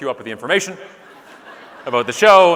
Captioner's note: audience laughing